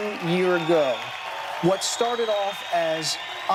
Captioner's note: cheering